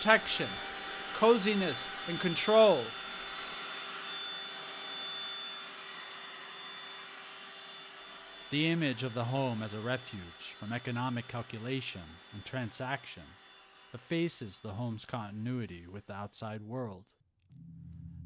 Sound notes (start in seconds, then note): 4.5 hoovering